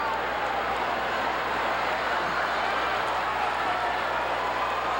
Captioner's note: audience chattering